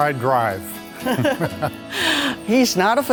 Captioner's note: laughs